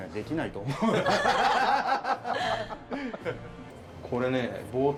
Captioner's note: laughter